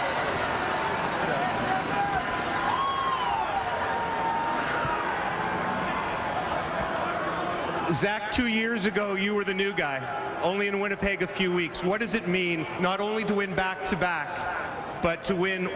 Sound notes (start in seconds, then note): 0.0 cheering and Applause